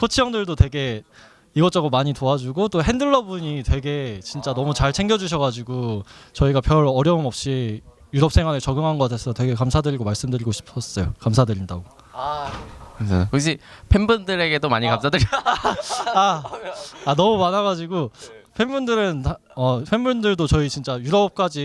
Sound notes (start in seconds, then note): 15.1 laughter